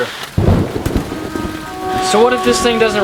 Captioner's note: thunder rumbling